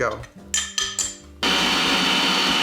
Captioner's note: spoon clinks; machine whirs